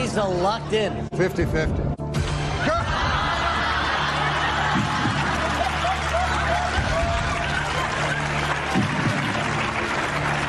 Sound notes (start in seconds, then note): 2.6 riotous laughter; 7.0 applause